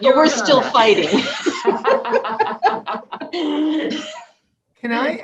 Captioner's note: laughing